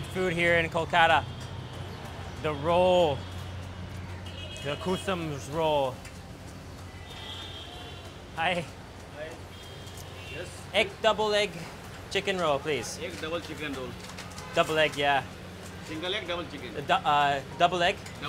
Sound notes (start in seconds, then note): none